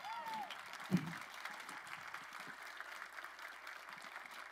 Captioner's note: crowd applauding